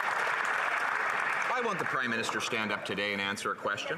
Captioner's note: some Applause